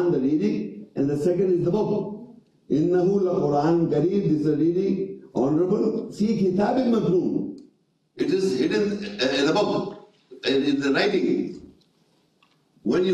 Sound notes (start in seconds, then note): 3.1 reading Arabic